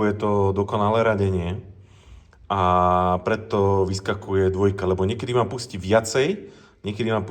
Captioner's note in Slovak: smrkanie